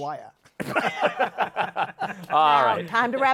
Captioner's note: laughter